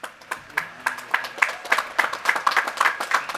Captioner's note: applause